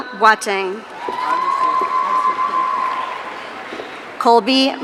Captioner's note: audience cheering